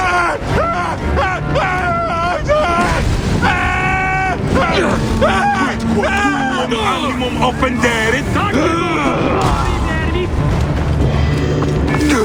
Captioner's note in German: schreien